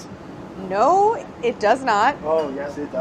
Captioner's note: laughs